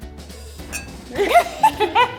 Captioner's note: glasses clinking; laughing